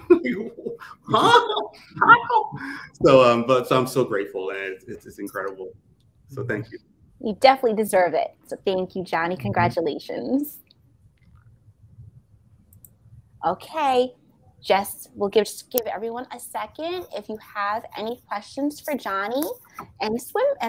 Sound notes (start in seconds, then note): 2.0 all laughing